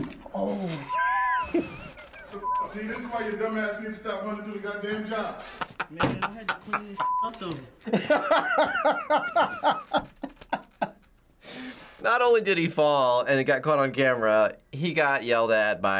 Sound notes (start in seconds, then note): 0.4 wheezing laughter; 4.9 laughs; 7.8 laughs harder